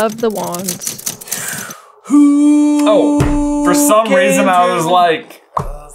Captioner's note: exhales